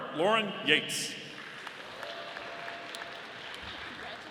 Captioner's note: audience applauding